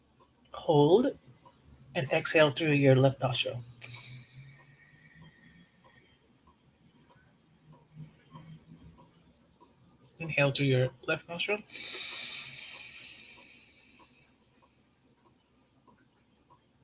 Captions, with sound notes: Hold, and exhale through your left nostril. (exhaling) Inhale through your left nostril. (inhaling)